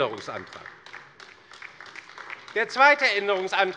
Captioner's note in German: Beifall bei der LINKEN